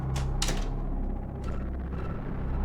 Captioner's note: shutting door, lock